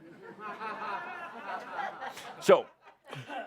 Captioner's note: laughter